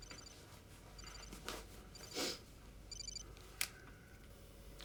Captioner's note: sighs; cell phone ringing